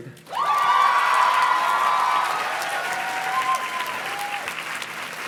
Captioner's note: audience cheers and claps